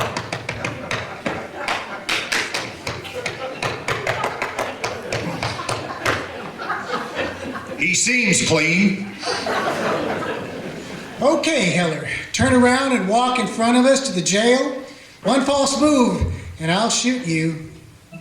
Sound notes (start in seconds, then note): 0.0 audience laughter; 17.6 organ music